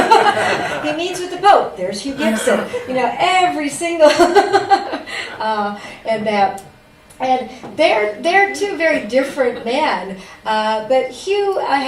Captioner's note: laughter; laughs